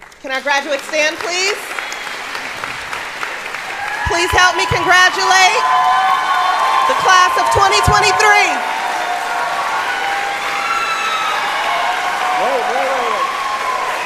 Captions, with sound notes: Can our graduate stand, please. Please help me congratulate the class of 2023. [APPLAUDING] [CHEERING]